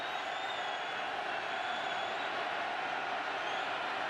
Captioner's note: cheers, applause